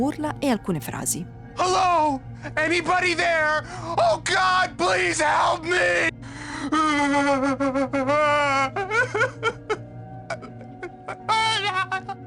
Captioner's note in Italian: urlo